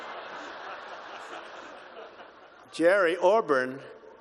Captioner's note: laughter